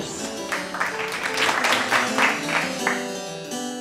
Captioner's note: applause